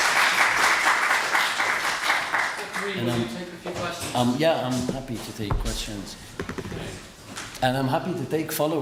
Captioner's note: applause